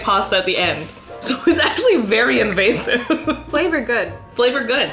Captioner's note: laughs